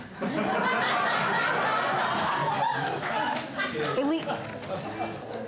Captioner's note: audience laughing